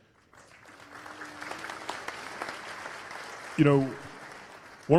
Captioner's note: applause